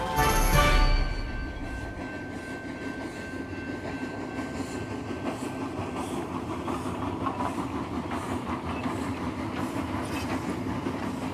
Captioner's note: sound of train passing